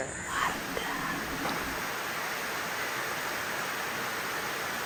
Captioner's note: ambient nature sounds